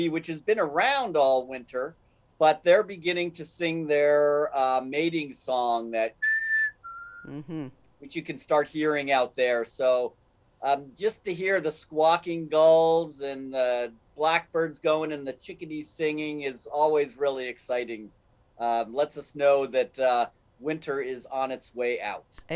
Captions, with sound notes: which has been around all winter, but they're beginning to sing their mating song, that (bird whistling) which you can start hearing out there. So just to hear the squawking gulls and blackbirds going and the chickadees singing is always really exciting. Lets us know that a winter is on its way out.